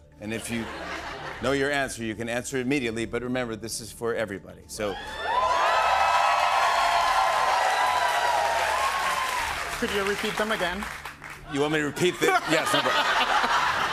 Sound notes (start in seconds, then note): 4.9 cheers and applause